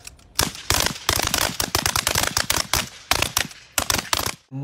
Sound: gunshots popping

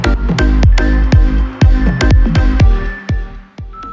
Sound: timer beeping

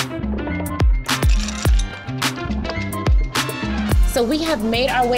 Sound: upbeat rhythmic music; ice clinking gently

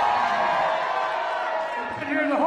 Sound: crowd noise

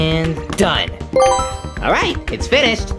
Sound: tone dings

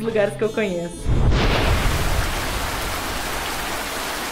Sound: heavy rain with lightning

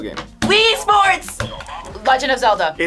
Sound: buzzer

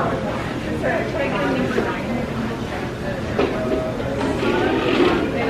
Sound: guests chattering

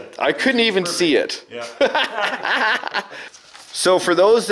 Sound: laughs

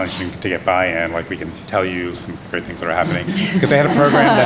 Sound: laughter

